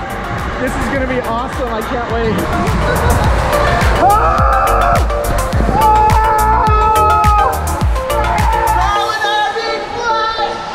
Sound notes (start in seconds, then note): 4.8 yelling